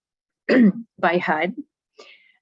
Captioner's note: clearing throat